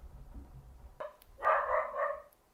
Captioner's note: dog barking